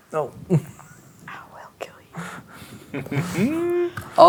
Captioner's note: whispers; laughs